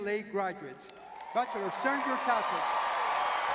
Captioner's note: audience cheering